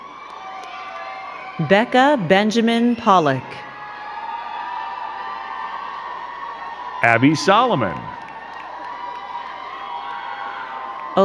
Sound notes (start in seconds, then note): 0.0 crowd cheering and clapping; 4.0 crowd cheering and clapping; 8.9 crowd cheering and clapping